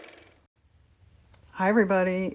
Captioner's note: car motor